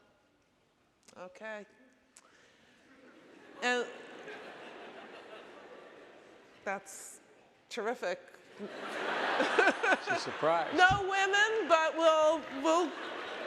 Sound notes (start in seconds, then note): 3.0 audience laughing; 8.6 audience laughing